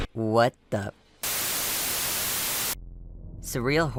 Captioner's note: TV Static